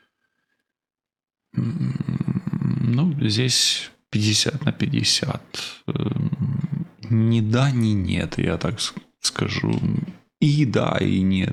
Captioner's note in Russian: откашливается